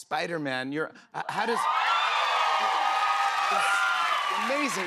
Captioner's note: cheers and applause